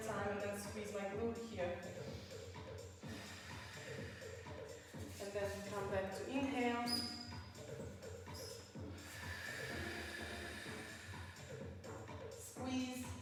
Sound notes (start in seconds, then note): 3.0 breathes; 8.8 exhales